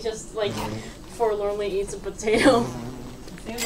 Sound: laughs

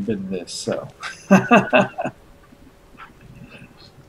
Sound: chuckles

